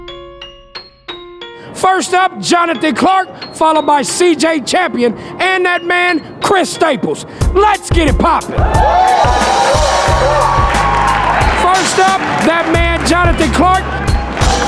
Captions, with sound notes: First up, Jonathan Clark followed by CJ Champion and that man Chris Staples. Let's get it poppin'! (spectators applauding) First up that man Jonathan Clark.